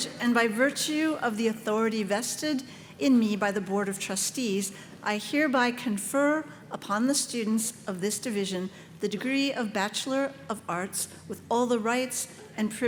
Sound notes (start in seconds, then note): none